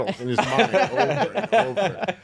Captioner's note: laughing